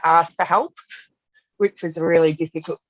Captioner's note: laughs